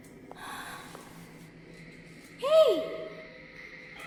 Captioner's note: sighs